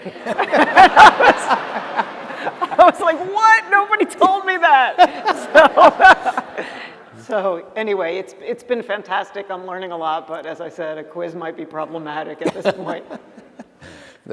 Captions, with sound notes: [LAUGHTER] I was like, what? Nobody told me that. So-- [LAUGHTER] So anyway, it's been fantastic. I'm learning a lot. But as I said, a quiz might be problematic at this point.